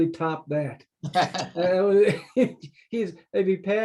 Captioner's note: laughs